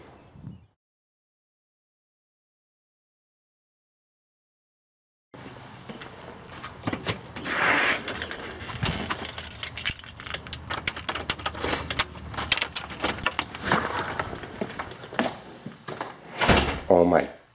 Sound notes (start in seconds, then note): 10.0 clanking; 16.5 door closes